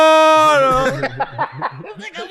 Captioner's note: cackles